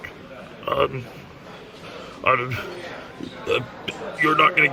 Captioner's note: nervous stammering